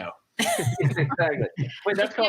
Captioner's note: laughter